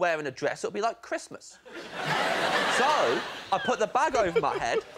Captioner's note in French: rires